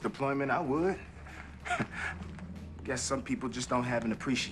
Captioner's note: chuckles